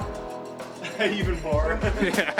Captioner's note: laughing